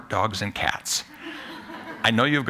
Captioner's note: laughter